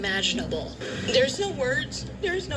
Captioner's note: on TV